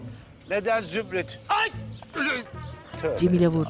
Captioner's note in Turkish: Bağırma sesi